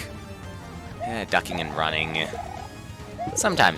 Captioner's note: sigh